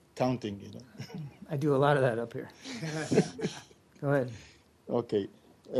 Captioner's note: laughter